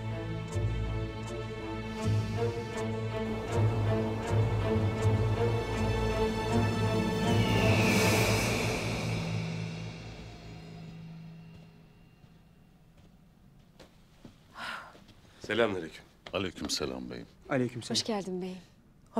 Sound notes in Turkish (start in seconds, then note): 7.1 Kartal sesi; 10.7 Ayak sesi